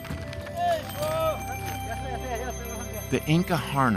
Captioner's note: men talking in local language, bell ringing